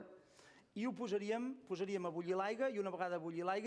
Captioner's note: non-english speech